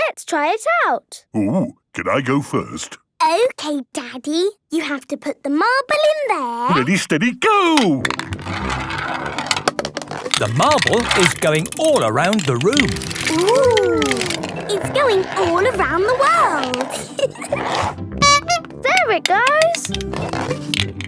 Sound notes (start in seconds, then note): 16.8 giggling; 18.1 honking